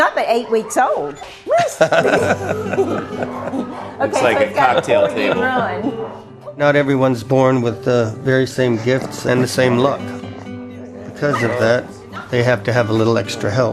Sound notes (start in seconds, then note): 1.4 laughter